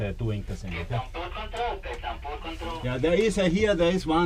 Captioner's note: radio transmission